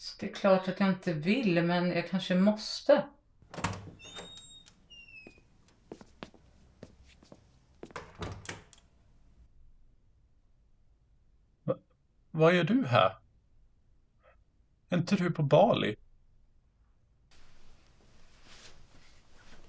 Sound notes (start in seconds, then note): 3.4 A door opens and closes; 5.2 footsteps